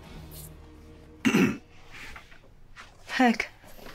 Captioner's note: Heck clears throat